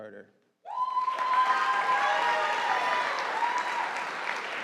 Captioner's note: audience applauding